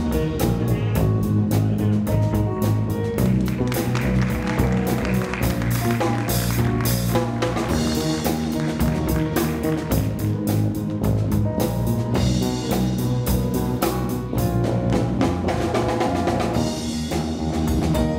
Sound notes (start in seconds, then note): 3.2 audience applauding